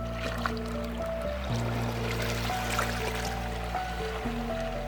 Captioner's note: water flowing